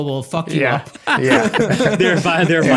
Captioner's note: laughing